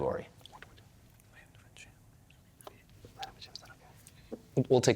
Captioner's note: team whispering